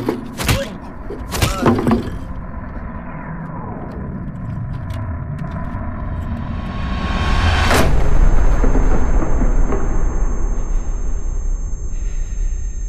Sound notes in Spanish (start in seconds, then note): 2.2 Golpes; 7.1 Pitido